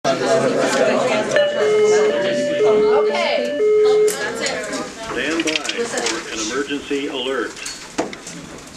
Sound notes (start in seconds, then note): 0.0 classroom chatter; 1.3 alarm